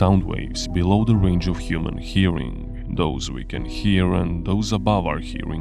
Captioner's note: infrasound